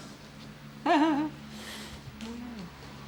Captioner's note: laughs